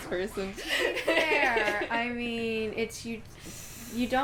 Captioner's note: laughing; laughter